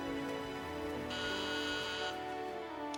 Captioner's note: doorbell buzzes